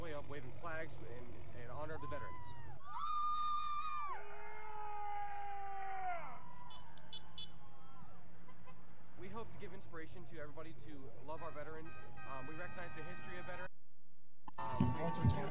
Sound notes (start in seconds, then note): 2.0 cadets cheering; 2.9 vehicles honking